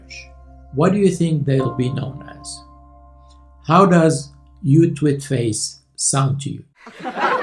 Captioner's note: laughter